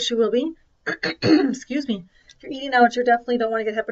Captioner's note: clears throat